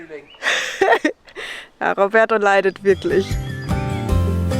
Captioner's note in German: Lachen